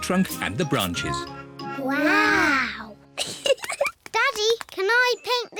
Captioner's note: both giggle